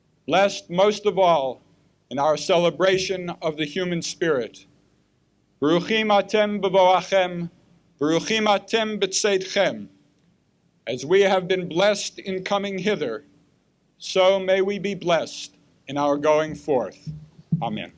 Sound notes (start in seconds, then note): 5.5 speaking Hebrew